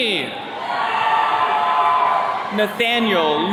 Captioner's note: attendees cheering